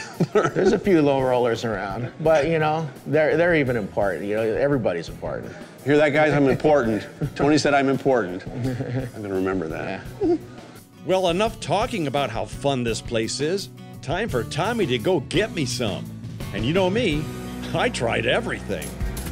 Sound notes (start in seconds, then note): 8.4 laughs